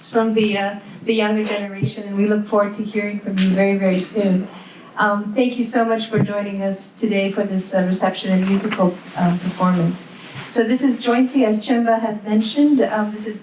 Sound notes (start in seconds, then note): none